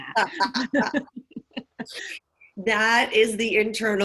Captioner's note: laughing